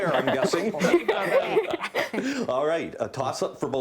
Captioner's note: laughing